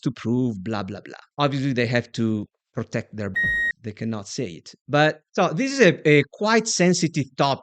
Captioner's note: bip